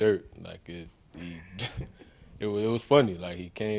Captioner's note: journalist chuckles